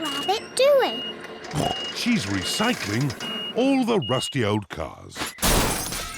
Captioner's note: snorts